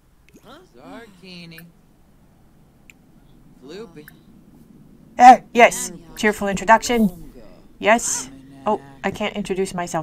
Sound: Simlish

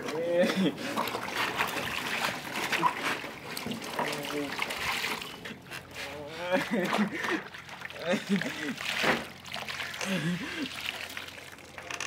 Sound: crying

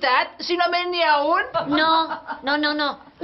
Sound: they laugh

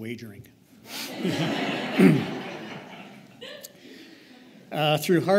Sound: laughter

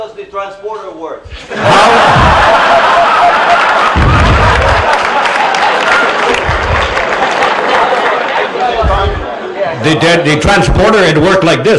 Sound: laughter

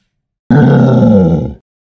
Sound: roar!

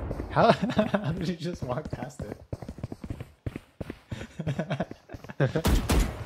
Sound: laughter

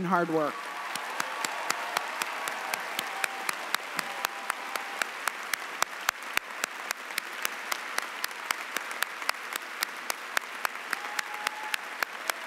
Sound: cheering and applause

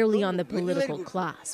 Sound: speaking alternate language

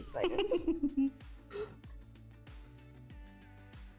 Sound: both laughing

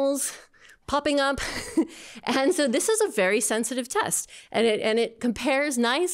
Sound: laughter

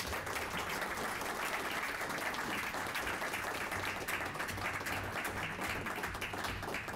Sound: applause

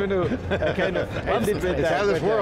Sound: laughing

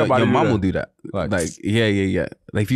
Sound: smacks lips

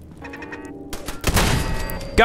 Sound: blam!

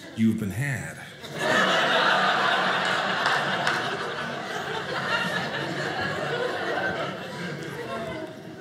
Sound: audience laughing

